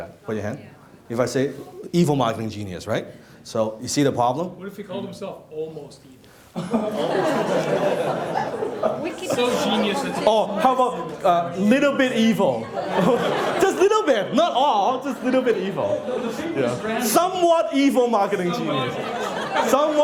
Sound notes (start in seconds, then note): 6.6 laughing; 12.6 laughing